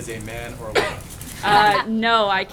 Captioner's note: laughter